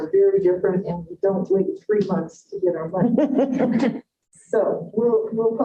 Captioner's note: laughter